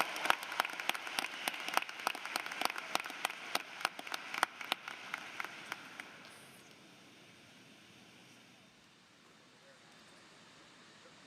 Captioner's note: cheering and applause